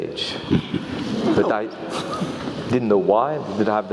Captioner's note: laugh